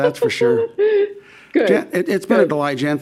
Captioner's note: laughing